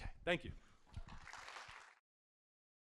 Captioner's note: applause